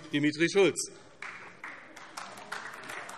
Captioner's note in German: Beifall AfD